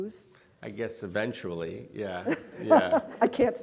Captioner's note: laughing